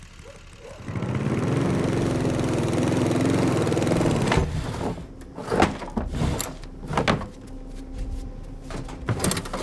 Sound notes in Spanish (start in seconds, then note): 0.2 el motor sigue zumbando; 4.3 objetos ruidosamente